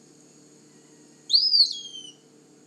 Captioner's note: pewee singing